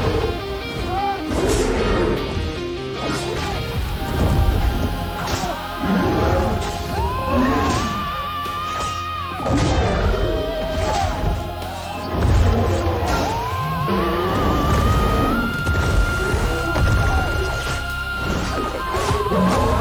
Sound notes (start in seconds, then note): 11.4 emotional music; 17.7 grunting